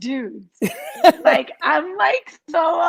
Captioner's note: Garyvee laughs